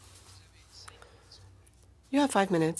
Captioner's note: speaking in French